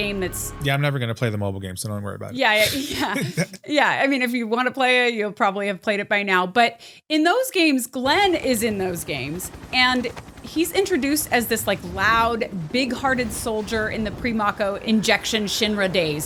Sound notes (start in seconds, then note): 2.5 laughs